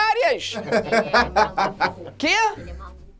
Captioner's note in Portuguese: risadas